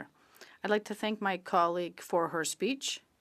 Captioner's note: speaking French